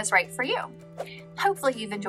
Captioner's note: air whooshing